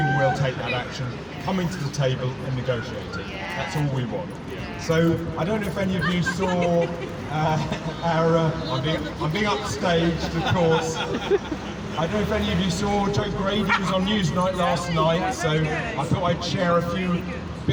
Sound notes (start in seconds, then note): 5.6 cheers; 6.7 laughs